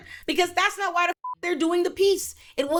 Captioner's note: beep